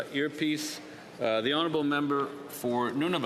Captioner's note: speaking French